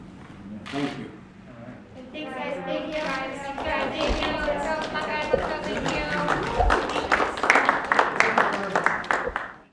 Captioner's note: applause